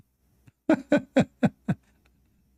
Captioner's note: Ketawa